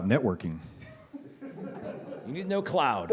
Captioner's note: laughter